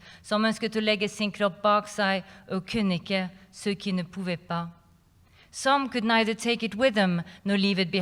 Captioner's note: non-english speech